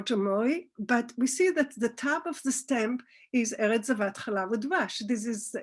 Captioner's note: Hebrew